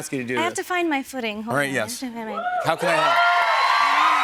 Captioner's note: cheers and applause